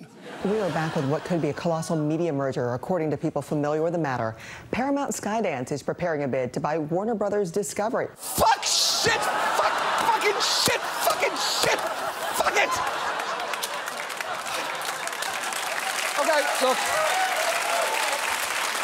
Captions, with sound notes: We are back with what could be a colossal media merger, according to people familiar with the matter. Paramount Skydance is preparing a bid to buy Warner Bros. Discovery. Fuck! Shit! Fuck! Fucking shit! Fucking shit! Fuck it! (LAUGHTER) -Okay, look... -(APPLAUSE)